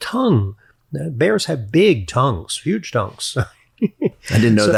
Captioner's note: chuckles